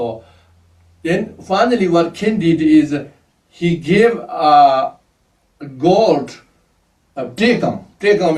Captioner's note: tibetan